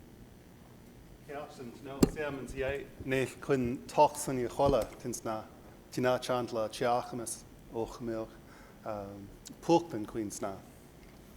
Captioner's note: speaks Indigenous language